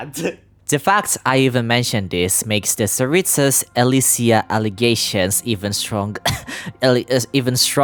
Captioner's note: cough